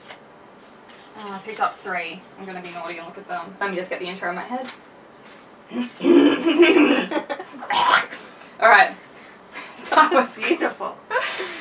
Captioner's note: clears throat